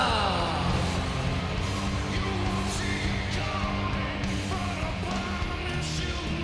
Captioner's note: crowd cheering; rock music